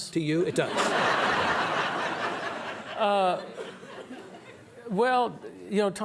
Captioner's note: audience laughs